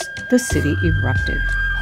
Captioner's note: soundbite of archived recording